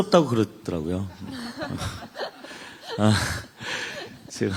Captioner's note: laughter